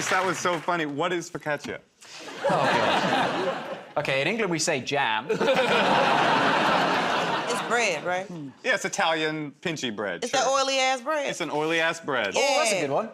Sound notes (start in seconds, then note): 5.3 laughter